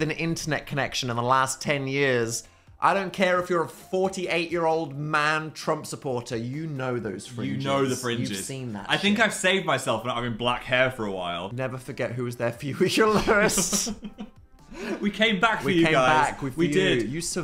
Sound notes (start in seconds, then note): 13.0 Phil laughs; 13.0 laughs